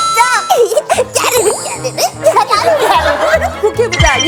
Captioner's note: giggles